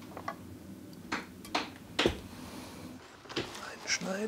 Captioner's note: knock